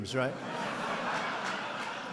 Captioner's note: laughter